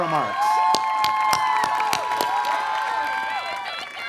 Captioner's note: cheers and Applause